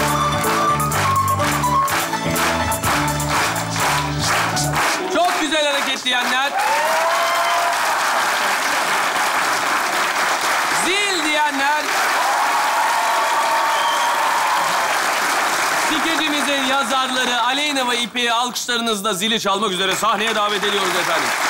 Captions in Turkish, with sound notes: Çok güzel hareket diyenler? (Alkış ve ıslık sesleri) Zil diyenler? (Alkış ve ıslık sesleri) Skecimizin yazarları Aleyna ve İpek'i alkışlarınızla... ...zili çalmak üzere sahneye davet ediyoruz efendim